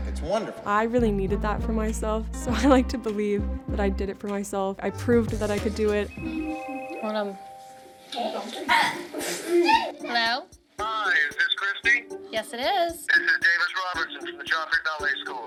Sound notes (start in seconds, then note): 6.0 phone rings; 8.3 indistinct chatter